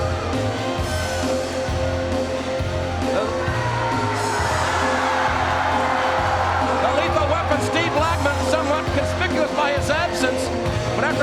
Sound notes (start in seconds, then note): 0.6 energetic rock music; 5.2 crowd cheers